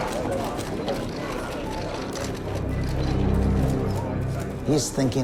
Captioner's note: sounds of photos being taken